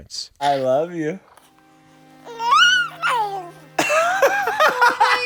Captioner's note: babbling; person laughing